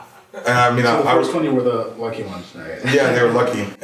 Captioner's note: laughing